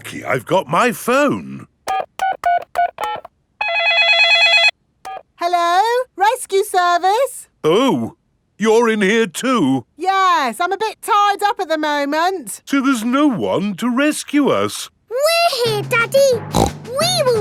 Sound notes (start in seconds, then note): 1.9 dialing; 3.6 cell phone ringing; 16.5 snorts